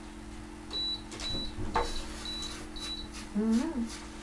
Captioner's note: beeping sound